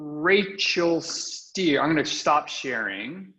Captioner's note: chuckles